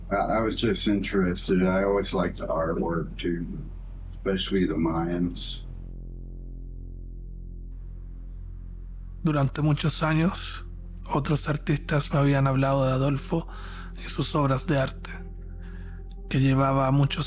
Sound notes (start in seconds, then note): 9.4 narrator speaking Spanish